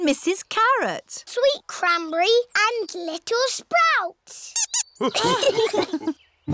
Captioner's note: squeaks; laughter